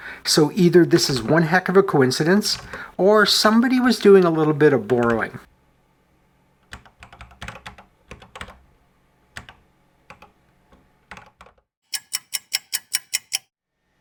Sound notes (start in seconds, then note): 6.6 typing on a C64 keyboard; 11.8 clock ticking